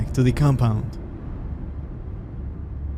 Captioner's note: car driving